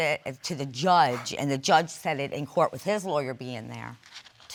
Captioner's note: scoffs